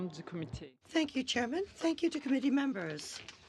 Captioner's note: speaking French